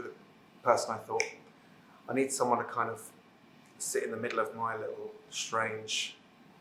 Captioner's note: snaps fingers